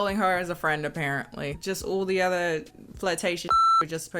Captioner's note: beep